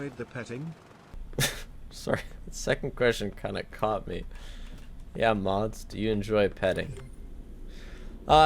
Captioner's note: laughs